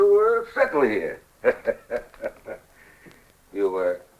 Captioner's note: laughs